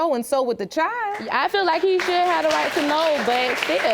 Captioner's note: audience applauding